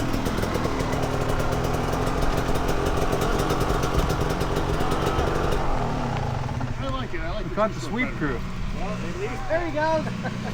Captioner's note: engine revving